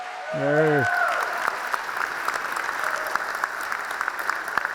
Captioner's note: audience applauds